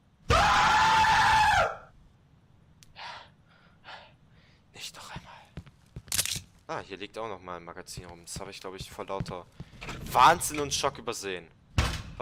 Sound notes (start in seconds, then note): 0.3 creepy-loud screaming; 2.9 breathes heavily; 4.5 quiet